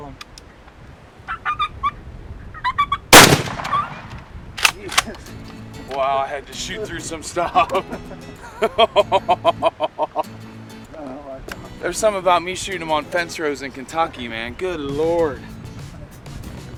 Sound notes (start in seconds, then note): 1.0 gun cocking; 1.2 turkey calling; 3.2 gun bangs and turkey squeaks; 4.6 bullet shell reloading; 7.4 cheering and laughter